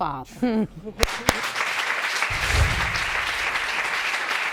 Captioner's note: audience applauding